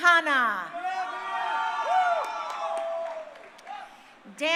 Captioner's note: crowd cheering